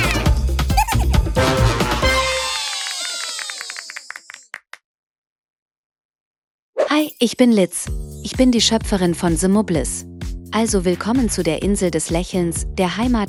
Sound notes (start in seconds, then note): 0.6 Mubble squeals and giggles; 1.3 Mubbles cheer and applaud